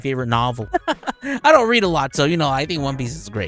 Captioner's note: laughing